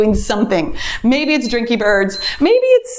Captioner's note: timer beeps